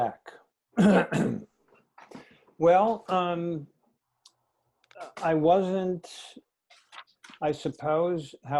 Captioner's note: cough